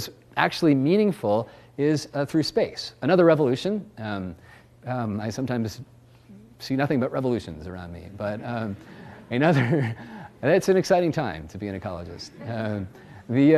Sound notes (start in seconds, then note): 8.3 laughs